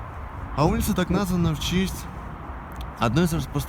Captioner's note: none